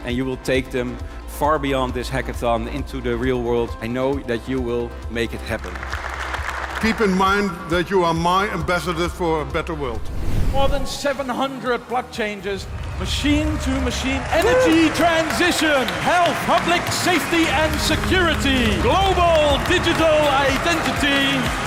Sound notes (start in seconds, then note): 5.5 applause